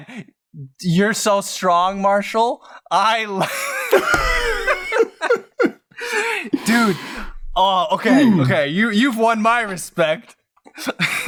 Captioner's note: laughter